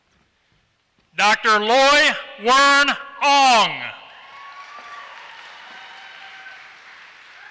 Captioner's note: applause